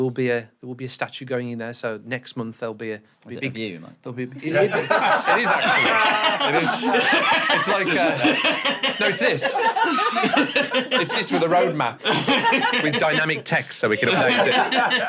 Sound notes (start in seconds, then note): 8.2 hearty chuckles